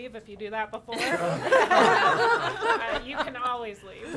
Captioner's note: audience laughing